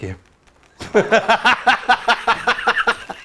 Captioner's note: laughs